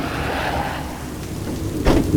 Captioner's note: car driving